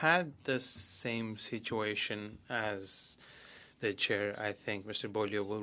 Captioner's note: speaking French